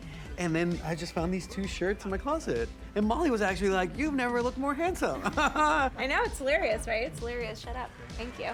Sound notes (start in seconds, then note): 5.1 chuckles